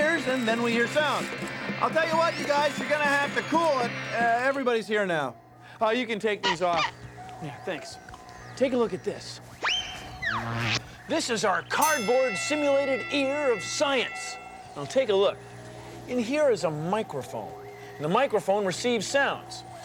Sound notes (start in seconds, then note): 5.2 pounding, clanging, whirring stop